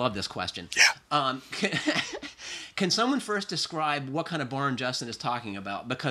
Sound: laughs

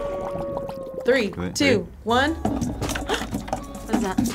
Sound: cauldron bubbles; gasps

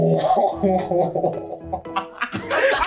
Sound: too funny end up laughing at himself

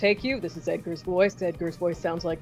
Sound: voice deepens

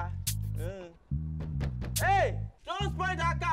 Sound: yells

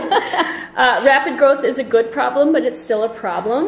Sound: laughs; voiceover

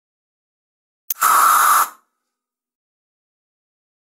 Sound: sound of spray

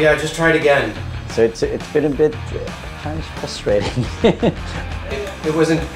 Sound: laughter

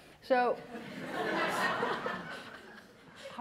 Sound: laughter

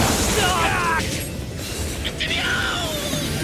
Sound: members scream

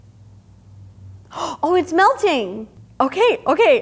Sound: gasping

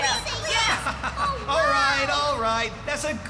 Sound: chuckling

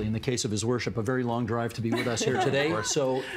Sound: laughter

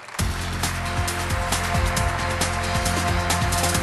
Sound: audience applause; celebratory music

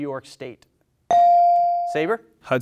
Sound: bell dings

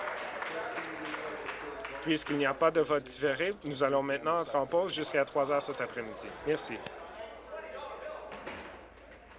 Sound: applause

